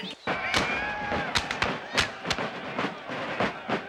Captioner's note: rifles fire